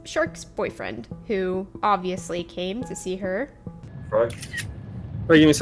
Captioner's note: camera Sound